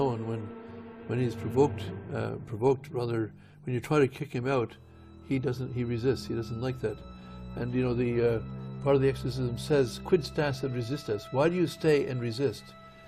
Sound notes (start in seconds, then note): 10.2 speaking Latin